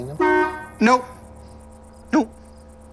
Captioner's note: horn honking